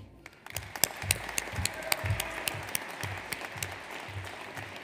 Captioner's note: audience applauds